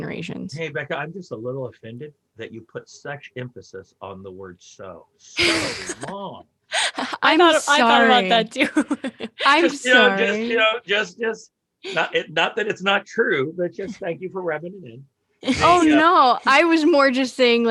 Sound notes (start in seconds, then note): 5.4 all laugh